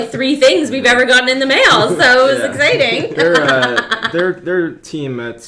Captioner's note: laughs